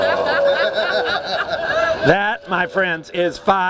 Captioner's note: laughs